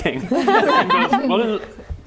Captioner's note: laughing